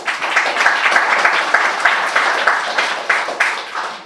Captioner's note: audience applauding